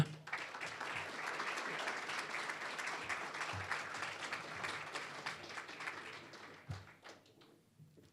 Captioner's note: applause